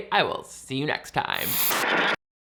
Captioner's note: static buzzing